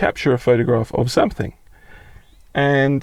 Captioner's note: chirping